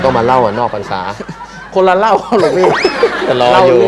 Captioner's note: laughter